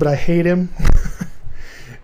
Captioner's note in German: kichern